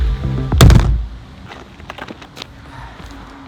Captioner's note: thud